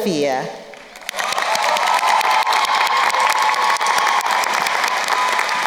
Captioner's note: crowd cheering and applauding